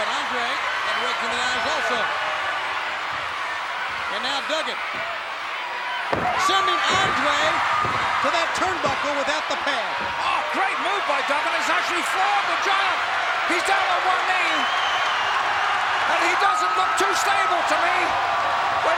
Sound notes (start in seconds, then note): 15.1 crowd cheers